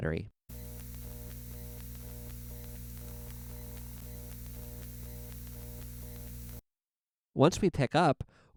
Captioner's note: hiss, buzz, crackle